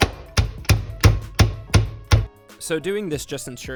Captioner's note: banging